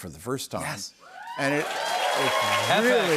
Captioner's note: cheers and applause